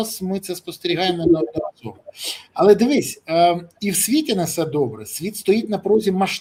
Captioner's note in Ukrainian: сопіння